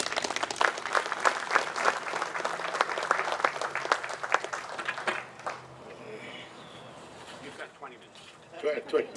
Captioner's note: applause